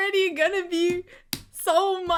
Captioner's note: smacks desk